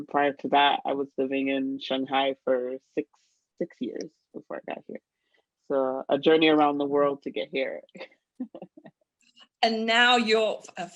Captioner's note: laughter